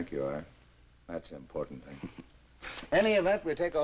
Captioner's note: Quent chuckles